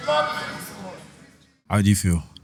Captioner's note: cheering